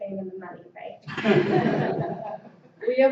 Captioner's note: laughter